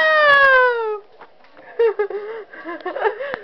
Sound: laughing

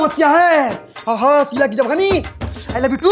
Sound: reciting a Mantra

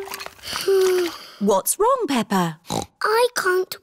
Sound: sighs; snorts

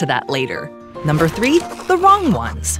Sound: pen scratching

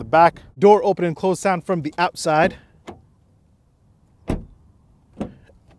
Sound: door bangs

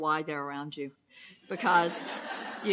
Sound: loud laughs

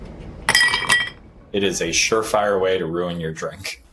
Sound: nat sound: ice in glass

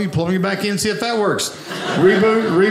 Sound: audience laughing

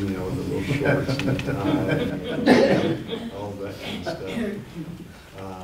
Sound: laughter

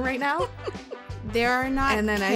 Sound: chuckles

